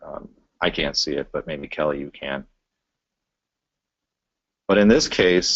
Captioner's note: pause